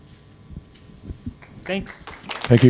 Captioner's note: applause